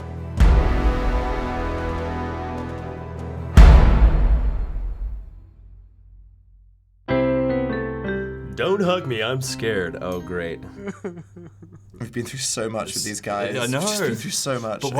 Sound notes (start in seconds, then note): 0.0 dramatic chord; 10.1 Yellow Guy sobs